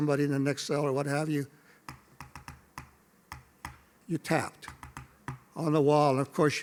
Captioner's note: tap